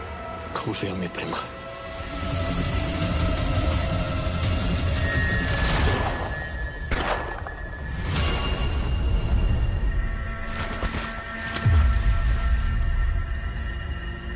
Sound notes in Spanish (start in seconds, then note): 6.9 Disparos